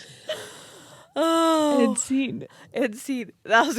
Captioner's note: sighs loudly